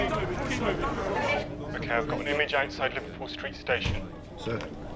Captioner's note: man over phone